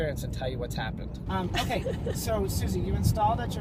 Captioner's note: laughs